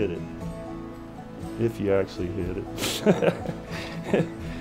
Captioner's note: laughs